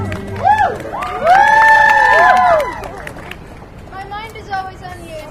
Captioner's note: audience cheers